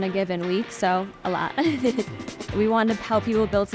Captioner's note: chuckles